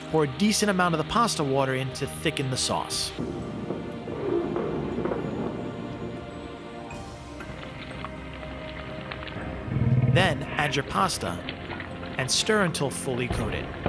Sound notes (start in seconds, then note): 3.1 mysterious tones; 7.7 sizzling